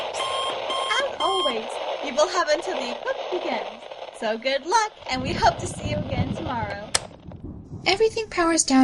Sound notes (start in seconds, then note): 0.0 static noise continuing; 6.5 radio cuts out